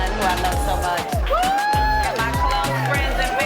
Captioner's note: cheering